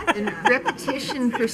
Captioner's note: laughing and muttering